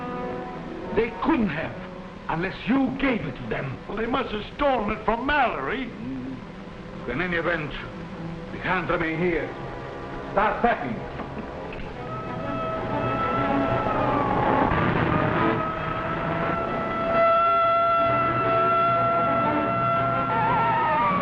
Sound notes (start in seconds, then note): 12.3 siren blaring